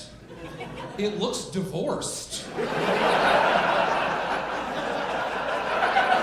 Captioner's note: audience laughing